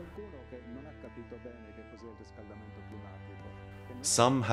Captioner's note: gentle music continues; speaking in foreign language